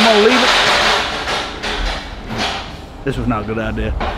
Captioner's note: metal banging